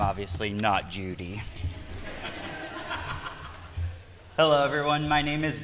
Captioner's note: laughter